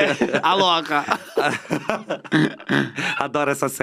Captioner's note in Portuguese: risos